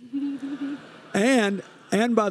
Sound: audience laughing

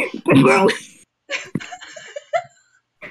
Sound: laughing

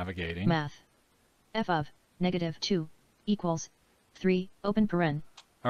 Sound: synthesized speech

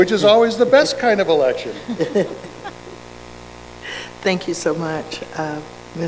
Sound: giggles and laughter

